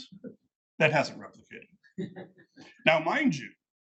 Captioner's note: attendees laughing